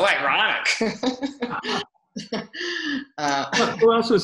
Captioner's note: laughs